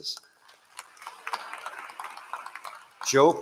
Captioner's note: applause